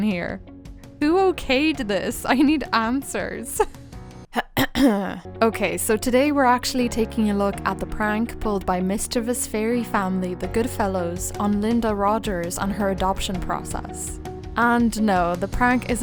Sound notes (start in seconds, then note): 3.4 dramatic music; 4.3 clears throat